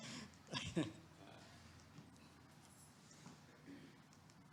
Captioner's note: clicker clicking